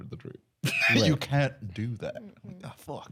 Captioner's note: laughs